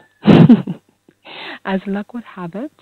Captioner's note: laugh